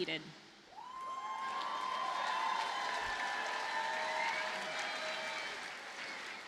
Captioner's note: audience cheers and applauds